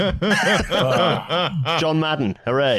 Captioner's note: laughter